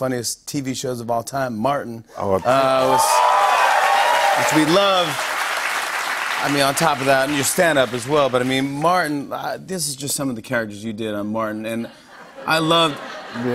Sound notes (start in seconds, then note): 2.4 cheers and applause